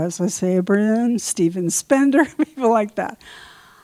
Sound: laughs

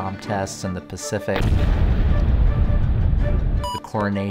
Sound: bomb bursting

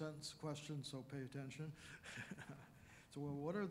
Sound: chuckling

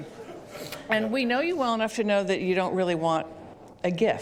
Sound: laughter

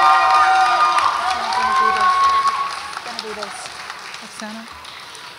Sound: audience applauds and cheers

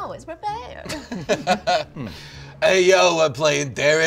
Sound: laughter

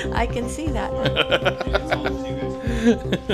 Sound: laughing

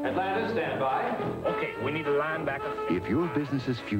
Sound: atlanta guy, with Southern accent

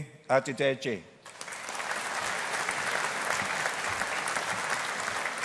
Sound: audience applauding

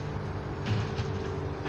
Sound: truck engine

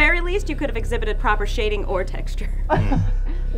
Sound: laughter

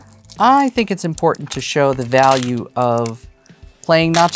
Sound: stones clattering

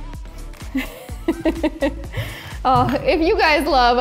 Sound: laughs

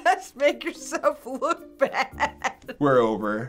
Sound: laughing

